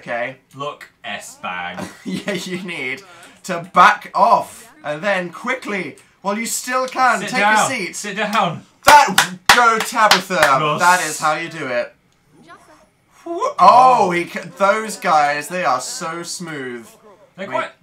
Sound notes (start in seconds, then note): 1.6 laughs; 8.9 claps; 13.2 exclaims